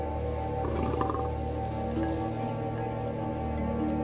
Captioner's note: Growling